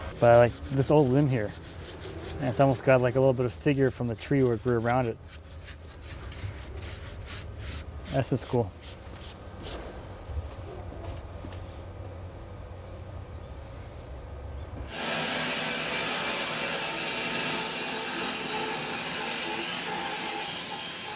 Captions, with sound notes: But I like this old limb here. It's almost got like a little bit of figure from the tree where it grew around it. This is cool. (saw blade humming)